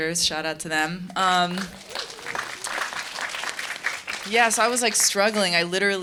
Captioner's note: audience applause